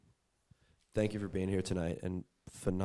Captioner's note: voiceover